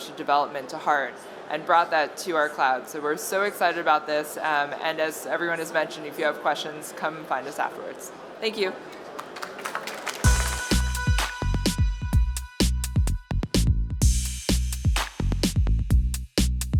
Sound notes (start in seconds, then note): 8.9 applause